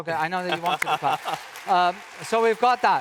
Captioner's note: audience applauds